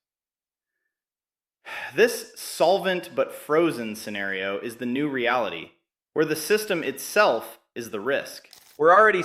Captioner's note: exhales